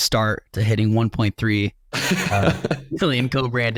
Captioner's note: guest laughs